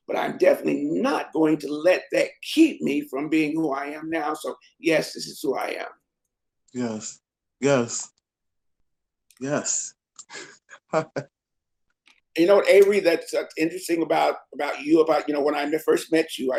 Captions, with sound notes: but I'm definitely not going to let that keep me from being who I am now so yes, this is who I am. - Yes, yes, yes. (laughs) - You know what Avery, that's interesting about you when I first met you,